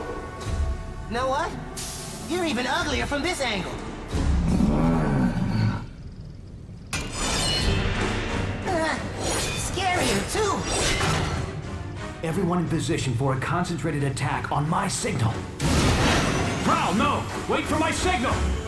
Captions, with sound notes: You know what? You're even uglier from this angle! (GROWLS) Scarier, too. Everyone in position for a concentrated attack on my signal. Prowl, no! Wait for my signal!